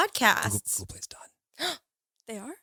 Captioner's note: whispers; gasps